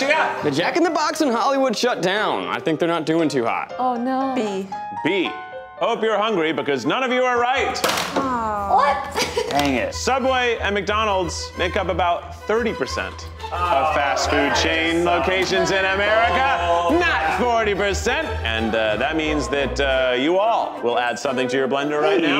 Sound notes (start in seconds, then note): 7.8 whiteboards clatter; 9.7 suspenseful music